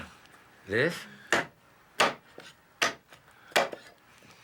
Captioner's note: chopping